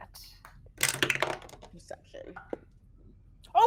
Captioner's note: dice thudding